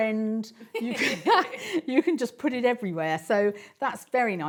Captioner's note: laughs